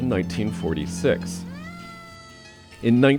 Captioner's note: fire truck siren blares